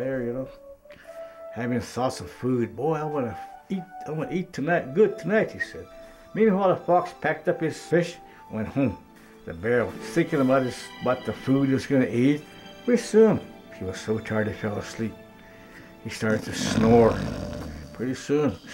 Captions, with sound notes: having thoughts of food. Boy, I'm gonna eat, I'm gonna eat good tonight, he said. Meanwhile, the fox packed up his fish and went home. The bear was thinking about his - about the food he's gonna eat. Pretty soon, he got so tired he fell asleep. He starts snoring (snoring noises) Pretty soon, stars are coming out, getting dark